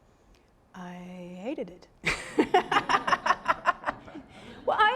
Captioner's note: audience laughing